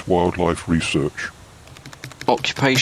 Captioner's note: typing